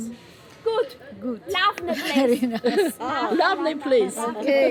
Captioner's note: in Armenian